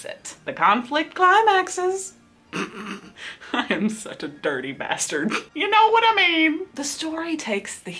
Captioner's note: snickers